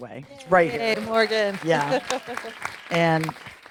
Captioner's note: audience applauding